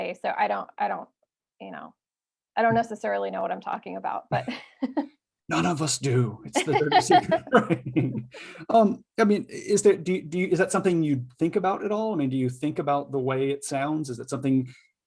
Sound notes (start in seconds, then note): 5.6 laughs; 6.5 laughter